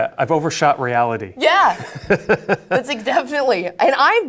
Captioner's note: laughs